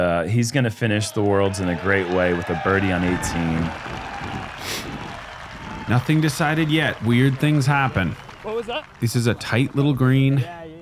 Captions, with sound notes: He's going to finish the worlds in a great way with a birdie on 18. [crowd cheering] Nothing decided yet. Weird things happen. This is a tight little green.